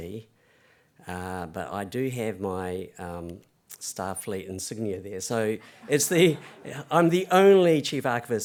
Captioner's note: laughter